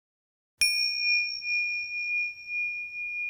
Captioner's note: bell chimes